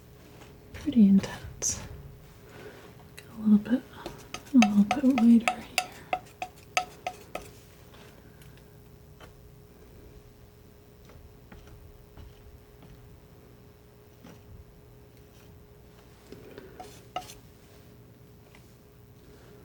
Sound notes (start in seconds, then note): 8.5 tapping